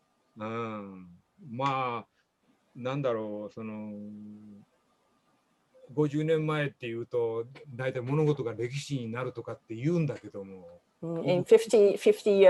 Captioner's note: speaking japanese